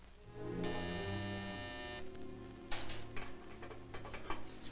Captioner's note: doorbell ringing